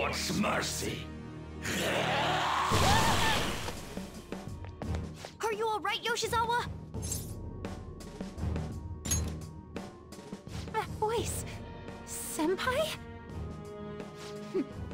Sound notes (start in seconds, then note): 1.7 Shadow roars